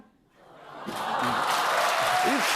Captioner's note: audience awws